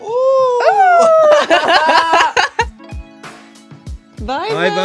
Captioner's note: laughing